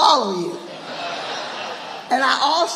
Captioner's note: audience laughing